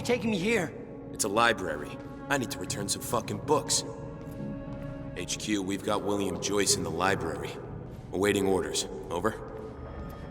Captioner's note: as an echo from the past